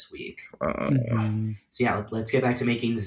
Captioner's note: groans